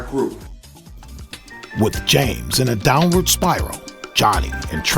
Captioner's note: voiceover